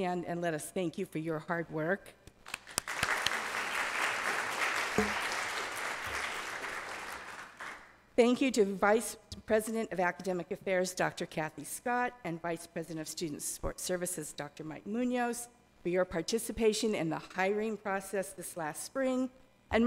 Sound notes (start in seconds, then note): 2.6 audience applauding